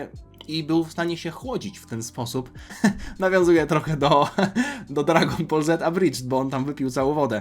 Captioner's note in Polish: śmiech